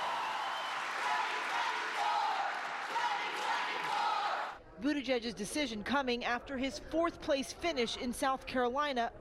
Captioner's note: cheers and applause